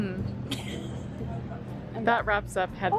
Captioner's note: laughing